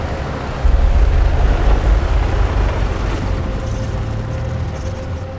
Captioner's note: engine humming softly